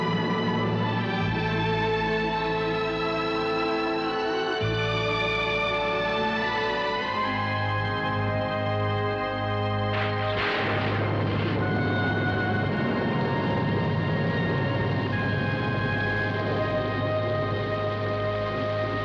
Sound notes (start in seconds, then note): 7.3 distant rumble; 9.5 thunder crashes